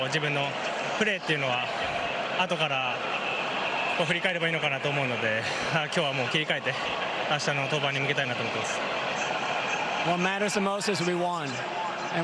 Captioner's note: speaking japanese